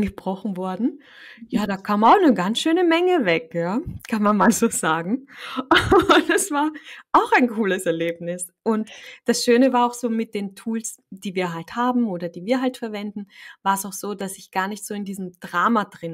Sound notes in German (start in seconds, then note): 5.3 lachen